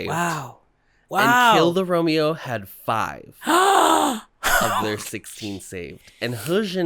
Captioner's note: gasp